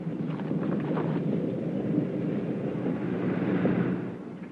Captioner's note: engine rumbling